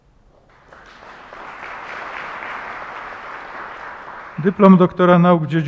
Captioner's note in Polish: oklaski